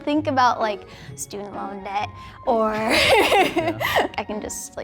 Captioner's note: laughing